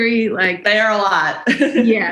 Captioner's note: chuckle